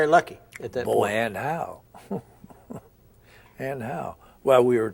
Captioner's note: chuckle